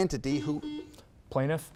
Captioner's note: buzzer beeps